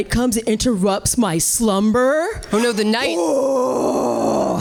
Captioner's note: roars